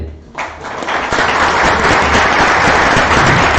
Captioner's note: applause